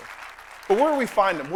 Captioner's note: applause